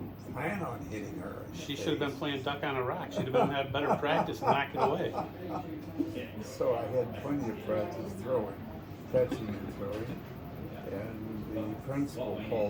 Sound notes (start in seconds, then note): 5.9 laughter